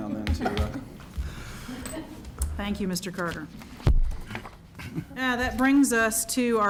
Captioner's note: laughter